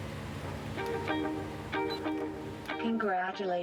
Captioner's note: beeps